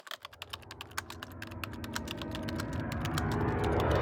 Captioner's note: typing